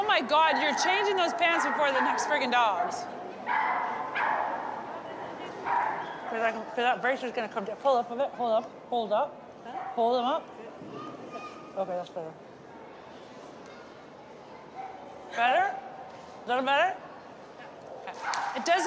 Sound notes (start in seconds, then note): 3.5 dog barking